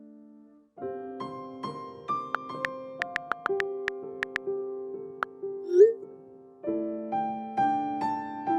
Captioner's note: slow, gentle piano; typing clicks